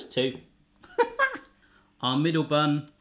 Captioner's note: laughing